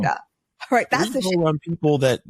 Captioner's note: laughs